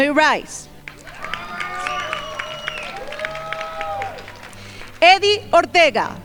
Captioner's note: crowd applauding